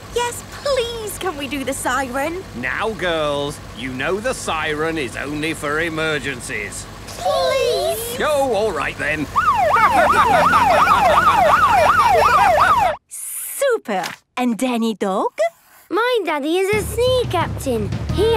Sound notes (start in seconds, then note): 9.3 siren wailing; 11.4 laughing